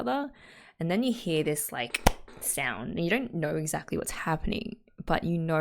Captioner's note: clap